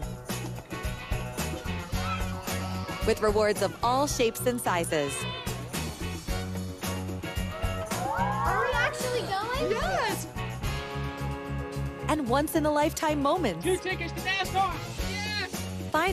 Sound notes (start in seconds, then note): 7.3 cheers